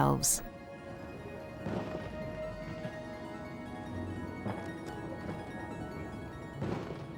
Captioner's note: gentle music; fireworks blasting